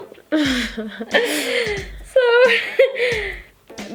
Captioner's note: both laugh